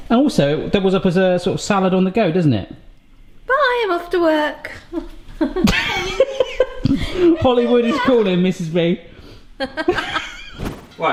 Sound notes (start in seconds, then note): 5.3 both laughing; 9.6 laughing